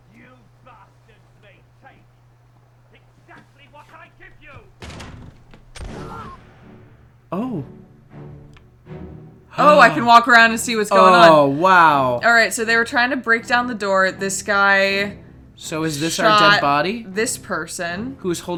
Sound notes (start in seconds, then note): 4.2 door opens; 4.5 gunshot